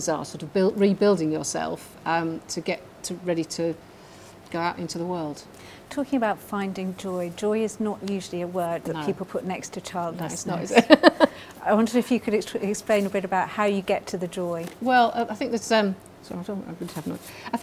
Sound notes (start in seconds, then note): 10.6 laughing